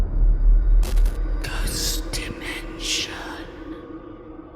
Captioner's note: haunting Voice